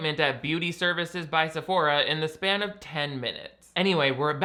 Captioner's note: none